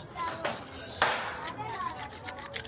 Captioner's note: tool snapping